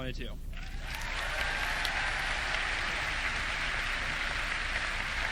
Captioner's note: audience clapping